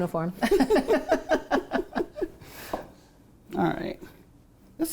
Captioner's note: both laughing